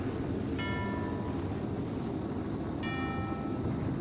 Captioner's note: ding